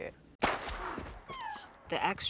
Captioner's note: gunshot